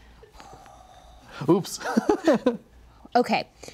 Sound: laughs

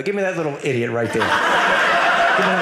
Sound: audience laughing

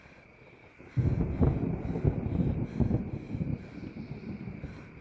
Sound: thunder cracking

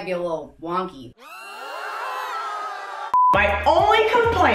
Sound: people screaming

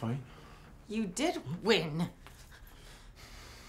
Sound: none

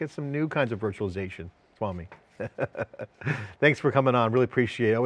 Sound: laughs

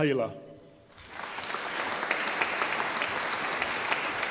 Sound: audience applauding

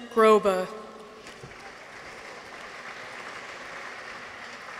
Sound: audience applauds

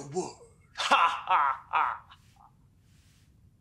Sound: laughs

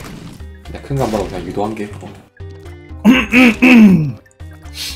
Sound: clears his throat to let him know it's a big thing

